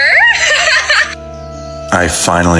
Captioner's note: laughs